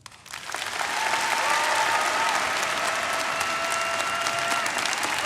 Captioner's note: audience applauding; audience cheering